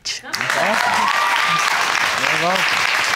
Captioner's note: cheering and applause